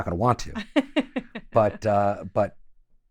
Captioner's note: laughing